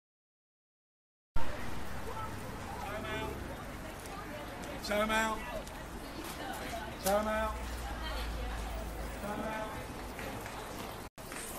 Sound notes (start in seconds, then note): 3.0 man chanting a word; 3.0 people talking